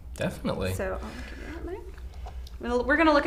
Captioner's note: faintly speaking